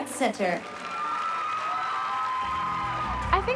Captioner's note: cheering and applause